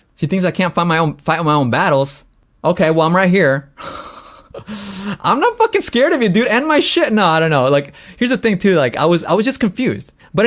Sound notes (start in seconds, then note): 3.8 laughs